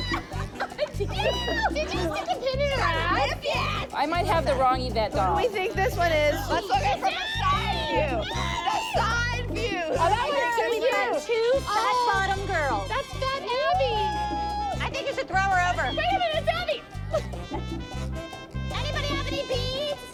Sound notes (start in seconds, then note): 0.0 screams; 5.9 gasps; 13.6 cheering